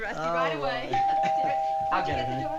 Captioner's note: doorbell chimes